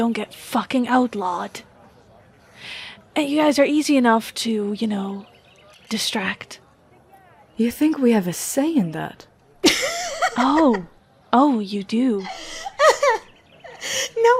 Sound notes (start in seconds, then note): 9.6 laughs